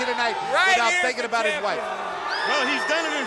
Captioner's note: crowd clamoring